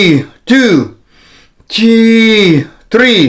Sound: inhales

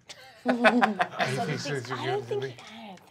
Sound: chuckling

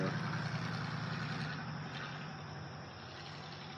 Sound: vehicles driving down the road

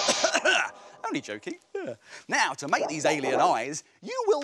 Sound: coughs

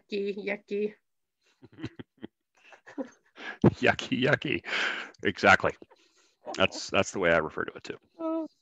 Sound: chuckles

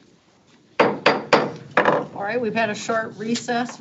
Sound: gavel banging

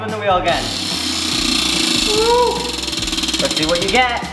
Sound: wheel buzzes

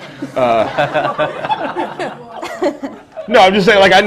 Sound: pause and laughter

